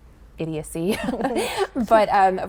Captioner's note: laughter